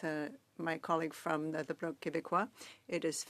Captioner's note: speaking French